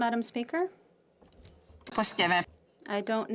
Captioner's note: speaking in French